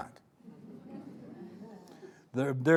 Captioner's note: audience chuckling